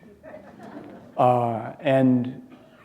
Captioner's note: chuckle